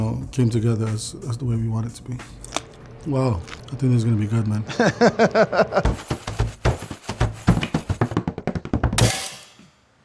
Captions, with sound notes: came together as the way we want it to be. Wow, I think this is going to be good, man. [laughing] [rhythmic drumming]